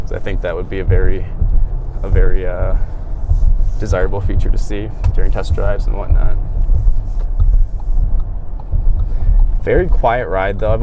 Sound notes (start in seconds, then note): 7.0 blinker pinging